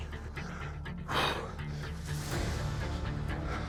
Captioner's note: blows out breath